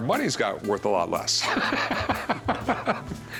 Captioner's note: laughter